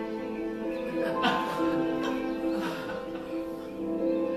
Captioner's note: laughter